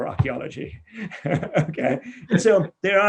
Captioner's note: laughs